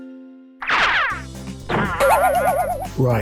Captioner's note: rocket launching; spring bonging